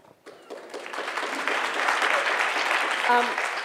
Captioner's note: applause